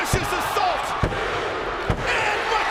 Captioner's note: hand pounding